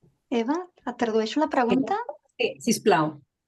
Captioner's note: speaking in Catalan